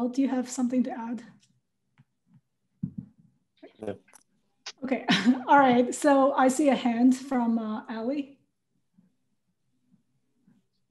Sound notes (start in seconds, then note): 5.0 laugh